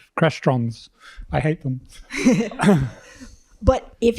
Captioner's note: laughter